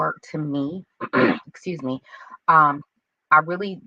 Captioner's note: clears throat